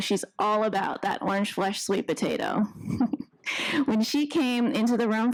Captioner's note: chuckles